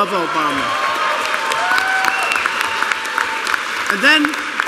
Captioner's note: applause